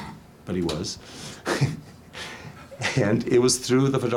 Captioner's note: laughs